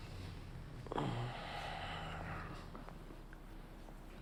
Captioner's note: moans